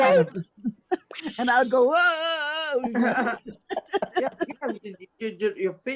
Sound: all laughing

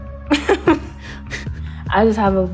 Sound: laughs

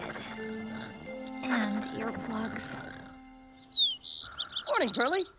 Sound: Jasper snoring

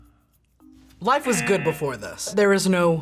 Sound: buzzer rings

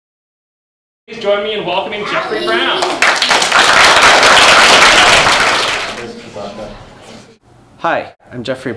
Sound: applause

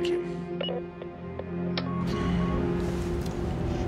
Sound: answering machine beeping

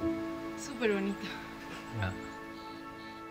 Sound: in Spanish

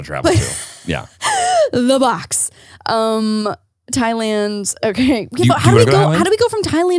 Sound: laughs

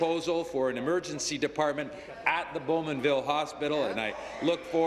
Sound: applause

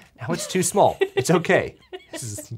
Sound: laughs

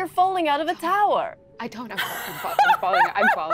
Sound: speaking faintly

